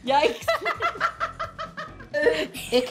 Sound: laughs

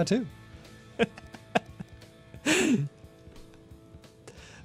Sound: laughs

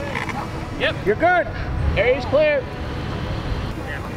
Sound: male Voice

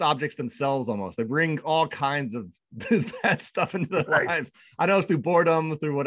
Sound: laughing

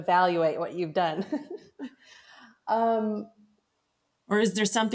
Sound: both laugh

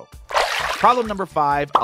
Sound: water splashing

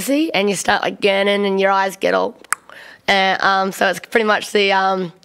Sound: clucks tongue

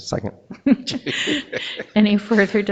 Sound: board members laughing

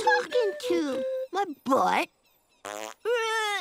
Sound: farting

